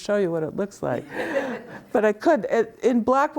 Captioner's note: students laughing